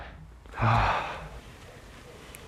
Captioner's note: sigh